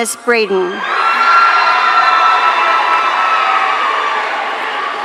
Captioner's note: audience cheering